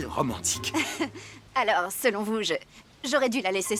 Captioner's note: chuckling